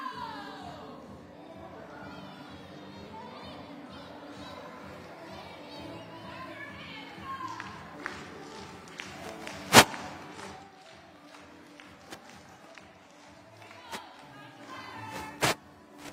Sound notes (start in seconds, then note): 0.0 upbeat music playing; 7.4 hands clapping; 8.0 upbeat music playing